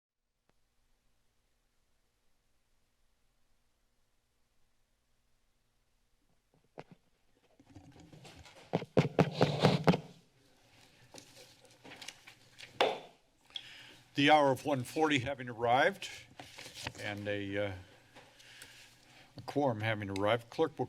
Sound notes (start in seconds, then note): 0.3 silence; 6.9 mic tapping; 10.7 paper rustling; 12.8 taps gavel